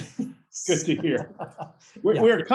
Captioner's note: laughs